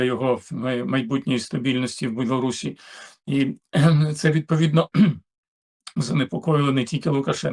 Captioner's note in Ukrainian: прочищення горла